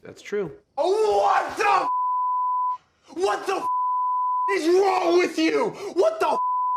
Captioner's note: beep; beep